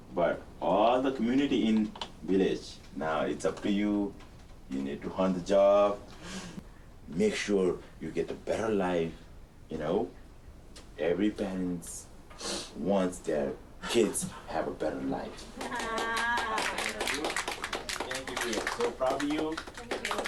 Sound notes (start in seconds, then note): 15.4 group applauds; 15.7 overlapping chattering